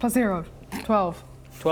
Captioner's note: snorts